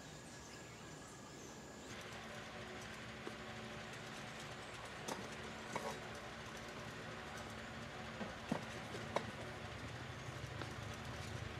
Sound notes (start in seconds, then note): 2.4 fan spinning